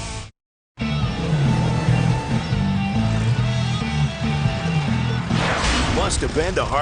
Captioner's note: van engine revs; hard rock music; Hard Rock Park logo whooshes then clangs